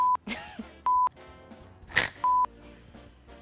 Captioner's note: electronic beeping; snorts; electronic beeping